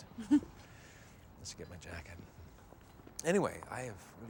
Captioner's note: chuckles